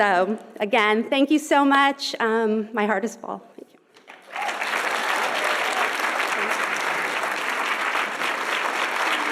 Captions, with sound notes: So, again, thank you so much. My heart is full, thank you. (audience applauding and cheering)